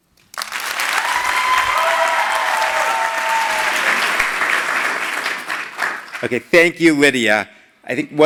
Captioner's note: applause